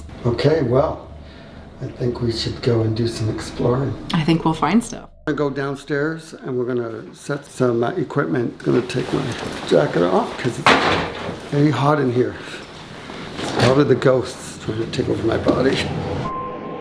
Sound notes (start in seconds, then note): 8.8 object clatters; 15.9 eerie suspenseful music